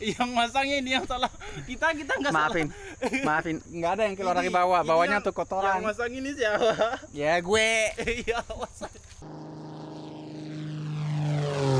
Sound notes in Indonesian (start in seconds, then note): 2.7 tertawa; 9.2 tertawa